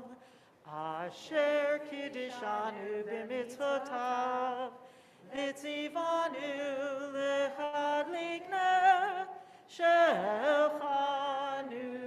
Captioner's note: Hanukkah blessing in Hebrew